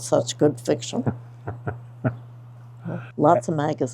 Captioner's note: host laughs